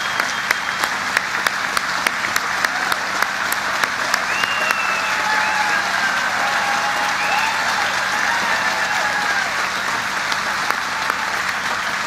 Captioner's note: applause